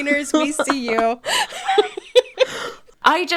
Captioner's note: laughing